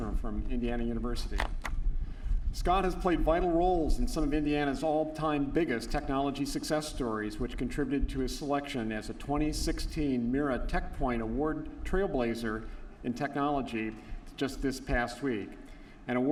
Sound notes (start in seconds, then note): none